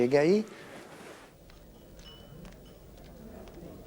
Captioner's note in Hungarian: halk kávéházi zsivaj